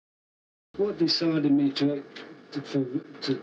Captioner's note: phone audio